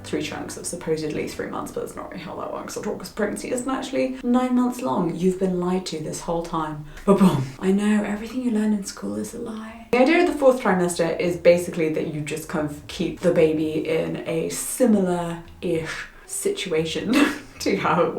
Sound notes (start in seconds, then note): 6.9 claps; 17.0 laughs